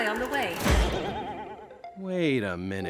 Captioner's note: boing